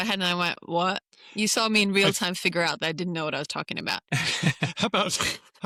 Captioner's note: laughter